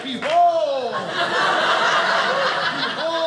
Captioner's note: audience laughing